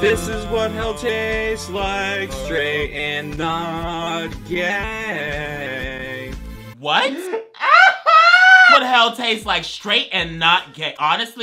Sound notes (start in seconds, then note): 7.0 laughs